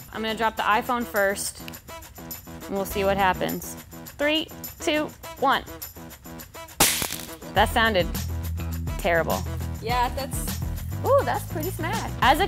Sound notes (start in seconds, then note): 6.8 phone hitting the ground